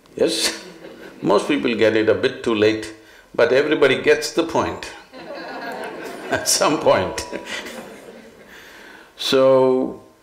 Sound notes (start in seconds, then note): 7.1 laughter; 8.3 laughs